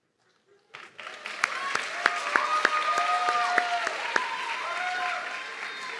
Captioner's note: audience clapping and cheering